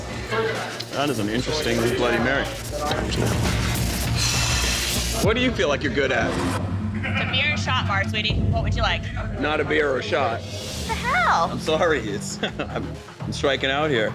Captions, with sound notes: That is an interesting Bloody Mary. [SIGHS] What do you feel like you're good at? It's a beer and shot bar, sweetie. What would you like? Not a beer or a shot. What the hell? I'm sorry. It's-- I'm striking out here.